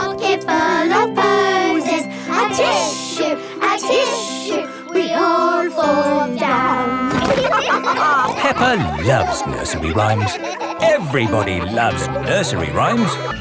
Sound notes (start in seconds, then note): 7.3 all laughing